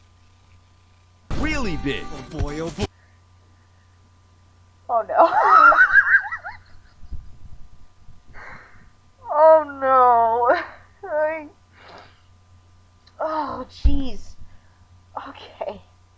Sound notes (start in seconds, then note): 8.4 agonizing wheezing